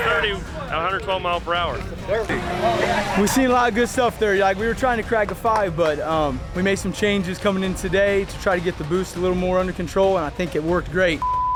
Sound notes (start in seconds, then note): 1.8 car engine revving